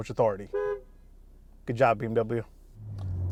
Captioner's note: horn honks